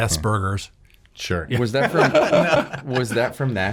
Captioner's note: laughs